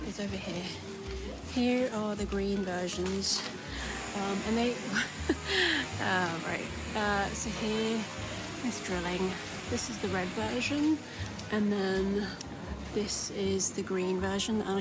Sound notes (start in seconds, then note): 7.1 drilling noise